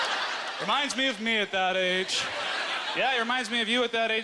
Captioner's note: audience laughter